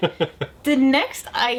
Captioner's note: laughs